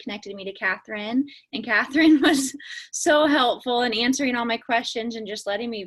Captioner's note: laughs